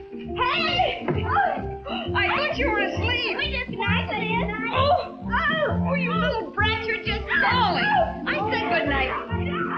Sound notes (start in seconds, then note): 5.1 groaning